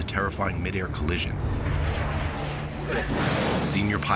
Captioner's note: engines whining; whoosh